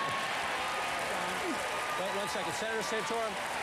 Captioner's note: applause